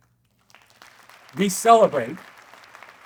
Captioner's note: audience clapping